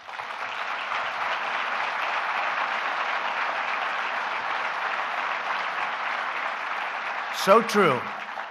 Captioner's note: applause